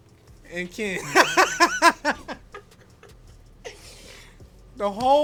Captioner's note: laughs